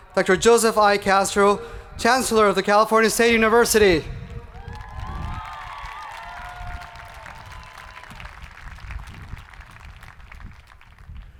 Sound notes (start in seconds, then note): 4.4 people cheering; 4.6 hands clapping